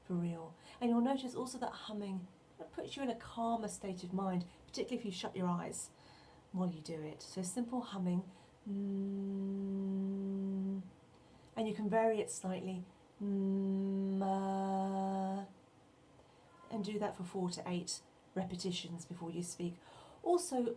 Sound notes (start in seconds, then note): 8.6 hums; 13.8 hmm-ahh